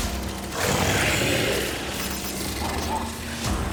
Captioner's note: growling